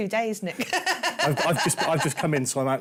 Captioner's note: laughs